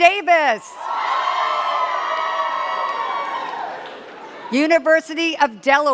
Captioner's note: cheers and claps